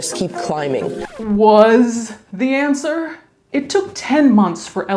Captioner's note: record scratching